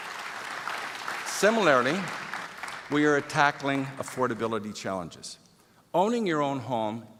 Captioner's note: applause